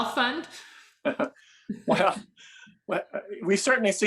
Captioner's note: laughs